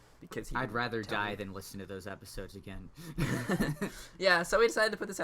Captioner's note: laughs